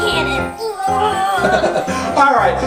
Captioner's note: giggles